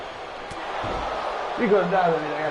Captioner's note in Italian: Applauso